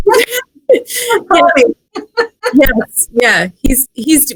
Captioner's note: laughs